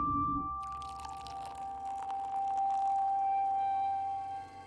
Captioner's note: pouring